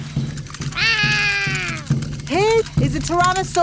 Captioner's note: roaring